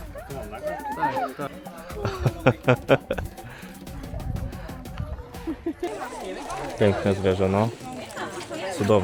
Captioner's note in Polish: laughs